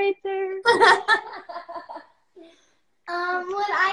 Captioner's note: laughs